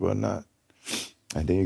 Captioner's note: sniffles